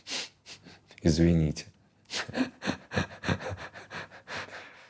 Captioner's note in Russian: сдержанно смеётся